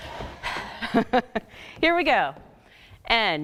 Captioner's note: laughing